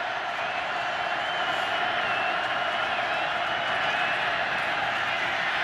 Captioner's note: crowd cheering